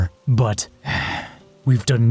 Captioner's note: angry sigh